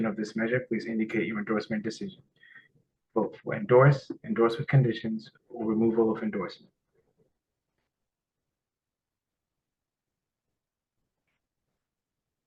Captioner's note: pause